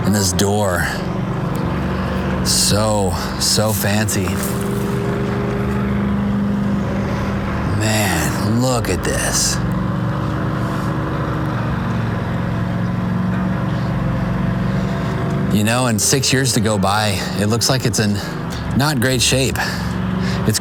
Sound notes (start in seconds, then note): 9.5 engine revving